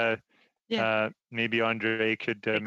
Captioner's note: laughter